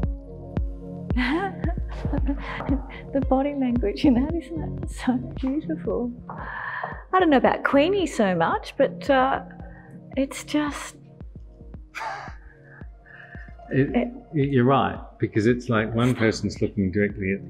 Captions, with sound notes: - (laughing) The body language, you know, isn't it so beautiful. I don't know about Queenie so much. But it's just... - (laughs) You're right, because it's like one person's looking directly